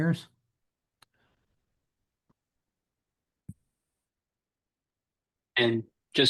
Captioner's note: silence